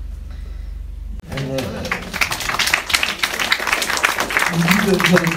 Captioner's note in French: applaudissements